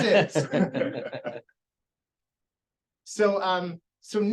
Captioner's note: laughter